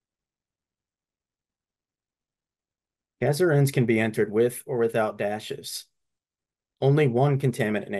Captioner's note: silence